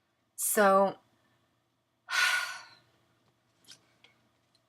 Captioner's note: sigh